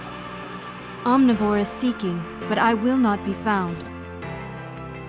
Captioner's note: voiceover